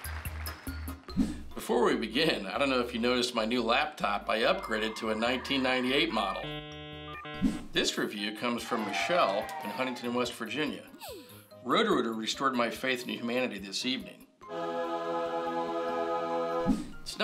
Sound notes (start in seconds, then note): 6.4 dial-up connection sound